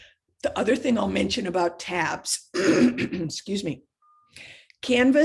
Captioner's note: clears throat